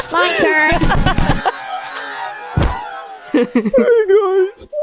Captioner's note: laughing